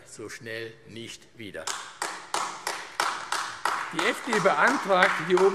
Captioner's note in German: Beifall AfD